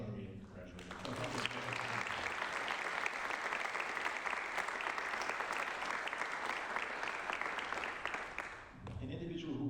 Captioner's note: applause